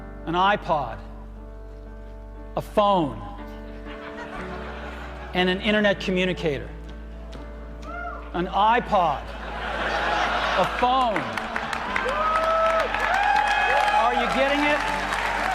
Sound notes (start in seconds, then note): 9.5 audience cheering; 15.2 audience clapping